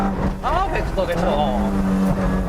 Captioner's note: engine revs; speaking in Japanese